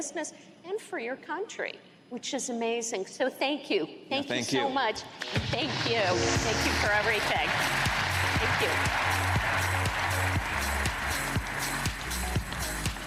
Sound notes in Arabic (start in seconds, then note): 6.7 تصفيق